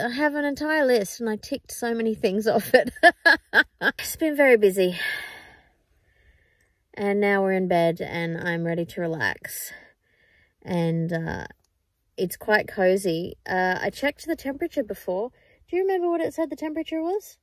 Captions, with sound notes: I have an entire list and I ticked so many things off it. [laughs] It's been very busy. [sighs tiredly] And now we're in bed and I'm ready to relax. And, uh, it's quite cozy. Uh, I checked the temperature before. Do you remember what it said the temperature was?